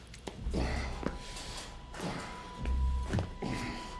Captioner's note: grunting